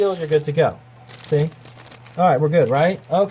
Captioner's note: crinkling paper